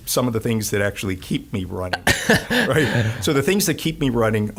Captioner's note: laughing